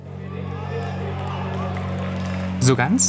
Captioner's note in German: Aufgebrachte Rufe